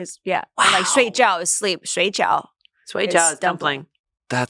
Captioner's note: speaks foreign language